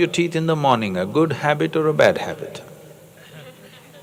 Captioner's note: laughter